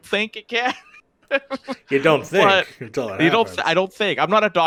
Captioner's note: laughs